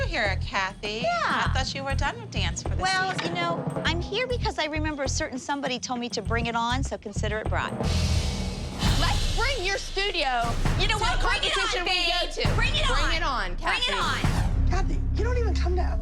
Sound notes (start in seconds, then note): none